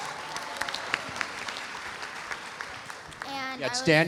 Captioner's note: audience applauding